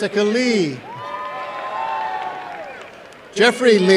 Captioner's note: applause and cheering